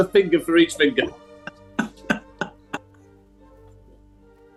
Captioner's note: laughing